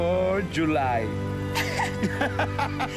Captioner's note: laughs